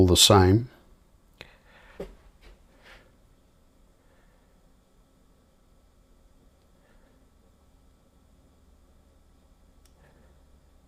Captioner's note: silence